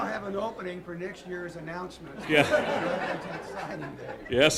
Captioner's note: laughter